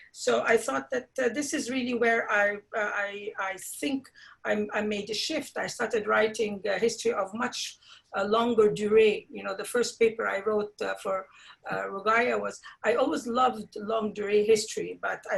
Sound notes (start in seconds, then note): 8.2 speaks foreign language; 13.6 speaks in foreign language